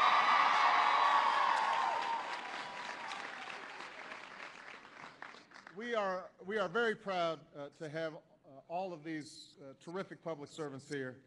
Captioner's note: applause